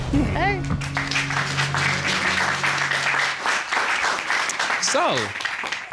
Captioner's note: applause